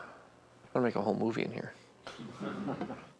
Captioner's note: people Laughing